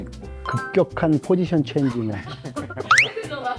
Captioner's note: laughs